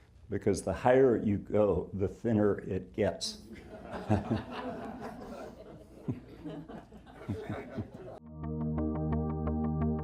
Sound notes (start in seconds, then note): 3.5 audience laughing; 3.6 chuckles